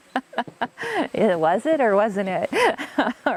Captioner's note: laugh